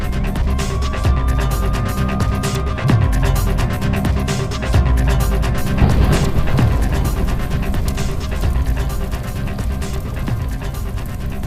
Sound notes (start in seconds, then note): 0.3 suspenseful music; 7.1 fire roaring